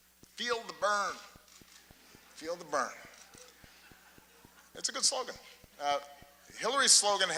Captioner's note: laughter